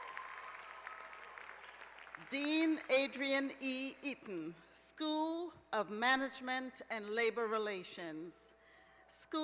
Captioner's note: cheers and applause